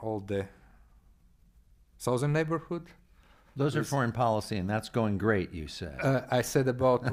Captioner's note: chuckles